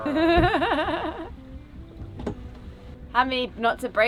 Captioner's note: laughing